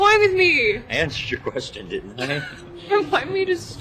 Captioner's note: laughs